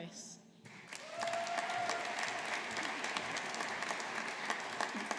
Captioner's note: audience applauding